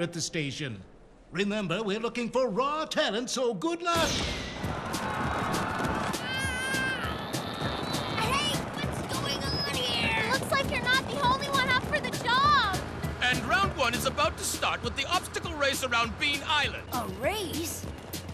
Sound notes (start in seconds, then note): 4.2 starter pistol firing; 4.5 crowd noise; 6.1 groaning